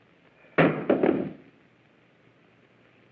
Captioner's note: thud